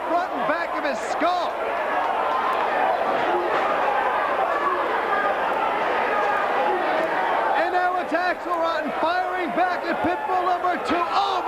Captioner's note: crowd chatter